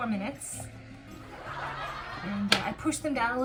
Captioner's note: people laughing